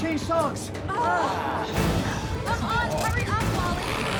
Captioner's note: group groans